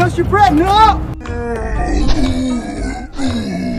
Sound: slow-mo groan

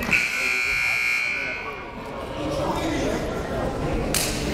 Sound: buzzer dings

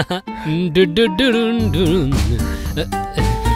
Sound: humming

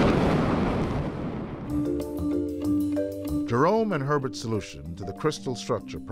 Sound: booming thunder

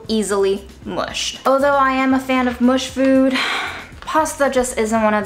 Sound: sighs

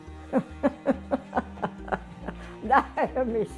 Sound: laughs

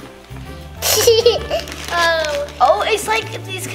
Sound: giggling

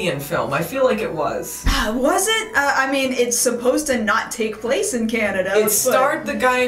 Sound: sighs

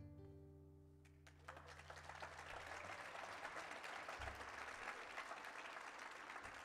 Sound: applause

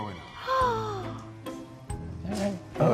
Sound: woman gasping

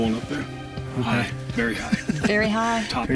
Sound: laughing

